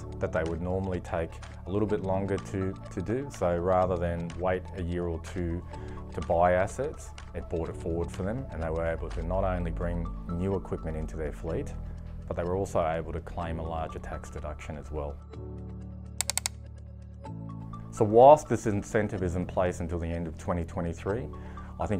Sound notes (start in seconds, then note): 16.2 clicking